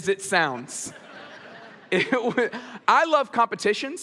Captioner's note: audience laughs